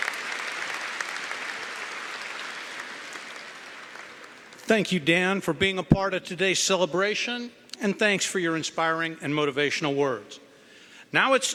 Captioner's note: cheering & Applause